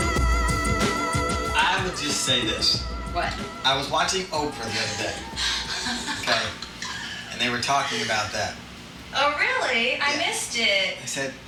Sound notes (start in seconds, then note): 4.5 laughs